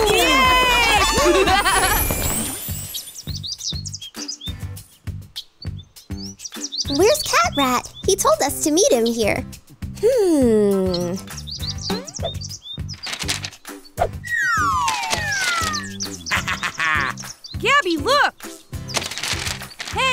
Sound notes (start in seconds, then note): 16.1 laughs